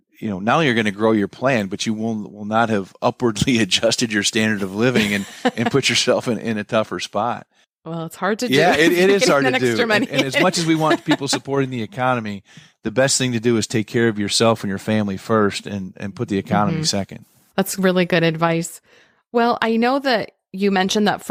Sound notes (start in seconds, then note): 4.6 laughs; 8.4 laughs